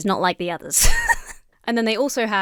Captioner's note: giggles